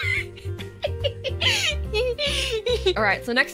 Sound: pained laughter

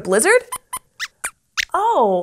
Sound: squeaks squeaks

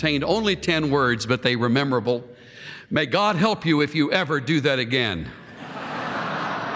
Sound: laughter

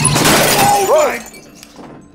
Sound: glass shattering; hinges creaking

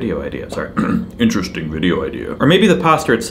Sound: clears throat

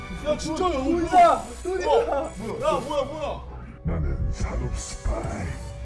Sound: TV turns on suddenly

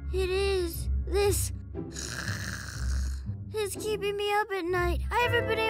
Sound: snores

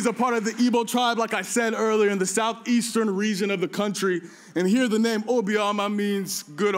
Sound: applause

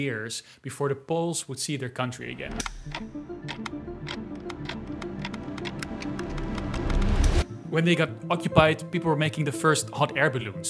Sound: clock ticking

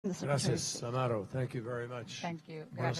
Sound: in Spanish

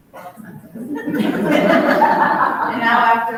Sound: both laughs

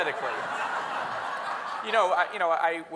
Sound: audience laughing

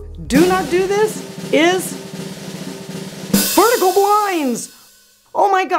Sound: drum roll; loud boom

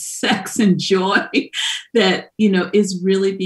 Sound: laughs

